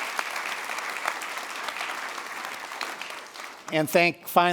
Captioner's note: applause